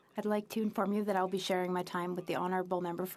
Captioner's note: speaking French